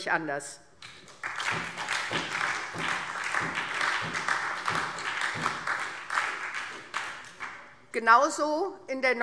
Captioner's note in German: Beifall SPD und DIE LINKE